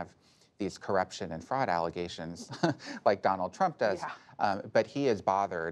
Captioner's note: laughs